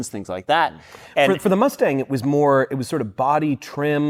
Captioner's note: none